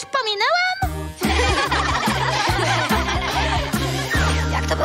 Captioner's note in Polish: śmieją się